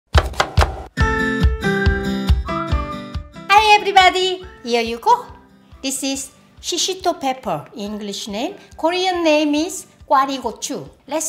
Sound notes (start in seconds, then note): 0.1 knife chopping; 0.1 upbeat music